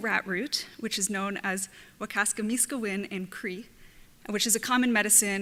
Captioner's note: speaks Cree terminology